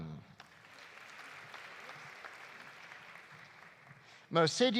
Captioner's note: audience applauding